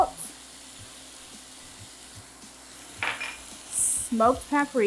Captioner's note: chicken sizzling